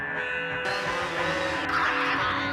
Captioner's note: chainsaw buzzing; Tasmanian devil shrieking